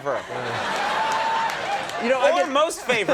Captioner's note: audience laughs and applauds